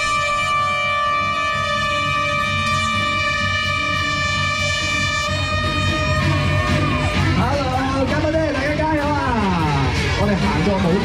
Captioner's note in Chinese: 加油喝采中